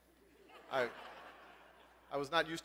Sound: laugh

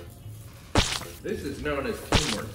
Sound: hot dog plopping

